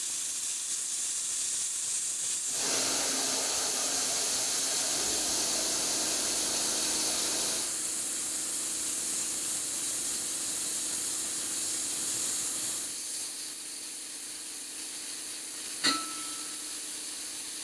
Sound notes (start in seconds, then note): 14.0 sparks hissing